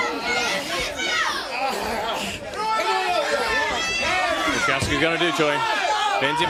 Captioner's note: crowd chatter; crowd cheering